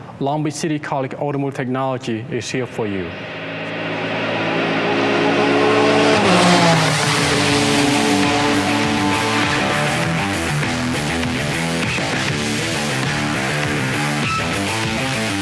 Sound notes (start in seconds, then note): 4.0 speeding car; 8.1 upbeat rock music